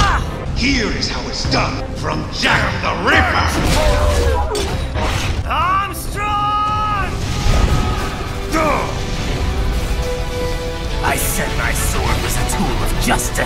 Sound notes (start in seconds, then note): 3.8 howling in agony